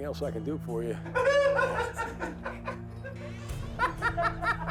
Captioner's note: laughter